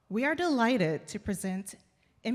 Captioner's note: none